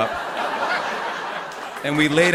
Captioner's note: laughter